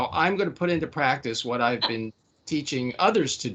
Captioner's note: laughing